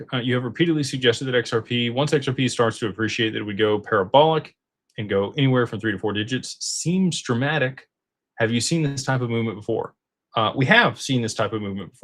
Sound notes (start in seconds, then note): none